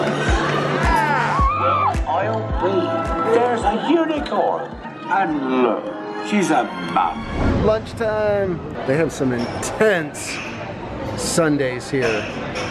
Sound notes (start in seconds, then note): 3.9 loudspeaker